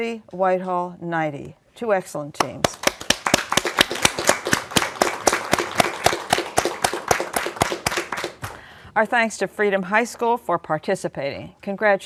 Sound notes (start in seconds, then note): 2.5 applause